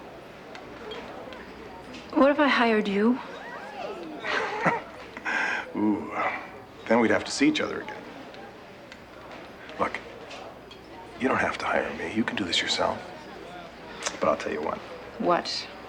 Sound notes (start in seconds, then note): 3.9 chuckles